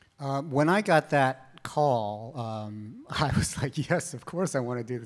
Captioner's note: chuckles